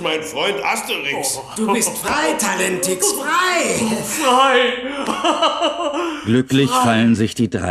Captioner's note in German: gelächter